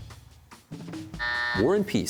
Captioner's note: buzzer sounds